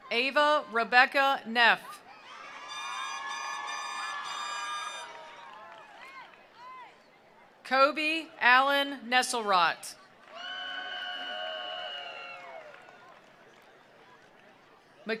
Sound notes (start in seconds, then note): 2.1 attendees cheering; 2.6 attendees applauding; 10.2 attendees applauding; 10.2 attendees cheering